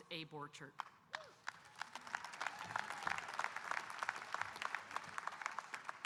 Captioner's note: audience applauding and cheering